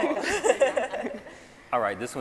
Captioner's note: scientists laughing